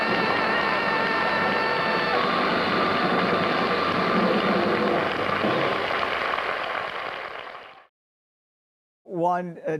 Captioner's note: audience Applauding